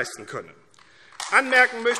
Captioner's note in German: Beifall AfD